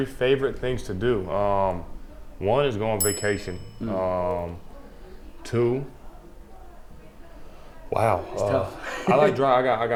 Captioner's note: bell sound